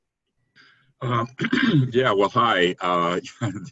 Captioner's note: clears throat